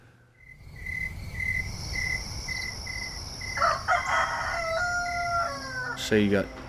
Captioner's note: crickets chirping; rooster crowing